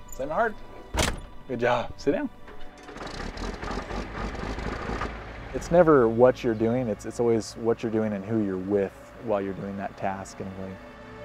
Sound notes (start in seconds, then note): 0.8 door slams; 2.4 tractor sputters; 11.0 dramatic music